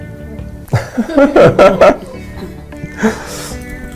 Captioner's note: laughter!